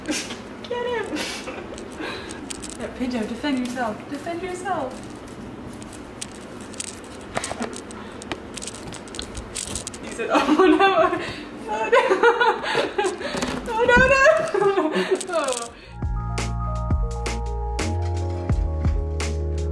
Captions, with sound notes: Pinto defend yourself, defend yourself. (speaks faintly) (laughs) Oh no no (laughs) oh. (upbeat music)